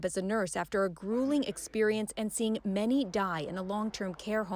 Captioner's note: speaking French